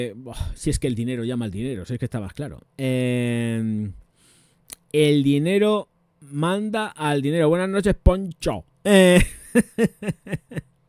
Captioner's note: laughs